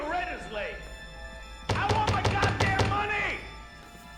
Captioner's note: banging on door